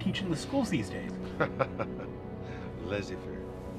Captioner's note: chuckles; voiceover